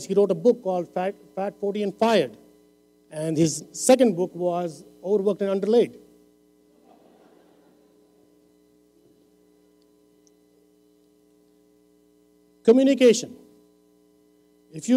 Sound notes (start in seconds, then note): 6.8 laughter